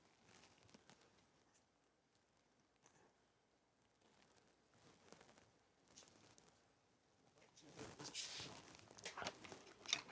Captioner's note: silence